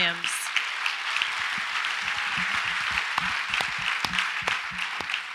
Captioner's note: audience applauds